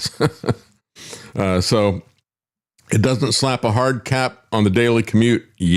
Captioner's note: laughs